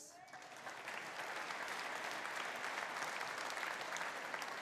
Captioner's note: audience applauding